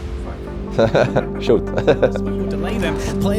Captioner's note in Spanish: se ríe